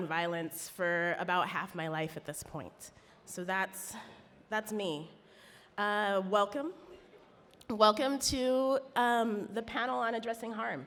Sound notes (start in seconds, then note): none